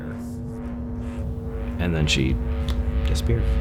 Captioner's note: click